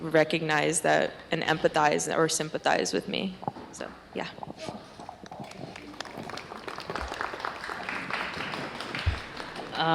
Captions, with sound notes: recognize that-- and empathize or sympathize with me. So yeah. [APPLAUSE]